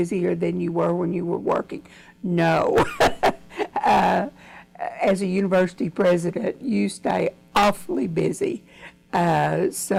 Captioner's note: laughs